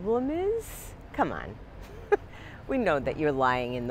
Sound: chuckles

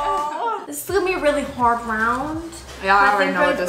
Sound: sarcastic voice

